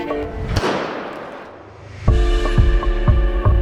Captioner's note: race gun firing; uplifting music continues